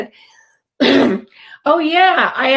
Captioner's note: clears throat